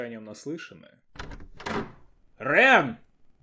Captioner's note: door opens and closes